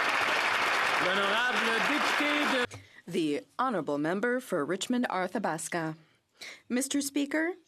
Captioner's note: applause